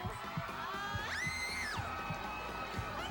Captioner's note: scream